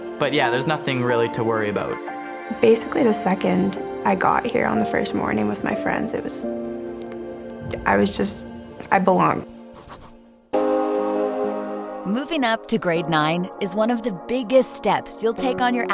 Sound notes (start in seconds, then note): 7.9 pencil scratching; 10.5 cheerful music